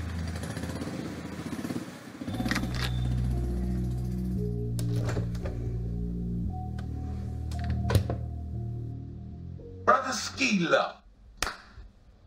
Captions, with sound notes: [Door open] [Refrigerator door close] Brotha skilo. [Hands smack]